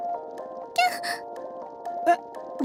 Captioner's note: small surprised cry